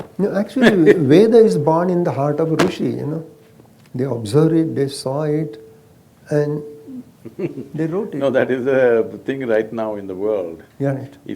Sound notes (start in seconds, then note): 7.2 Sadhguru laughs